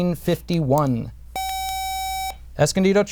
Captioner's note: buzzer